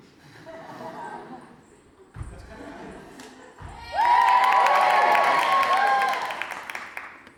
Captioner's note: audience laughs and cheers